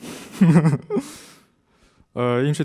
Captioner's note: laughing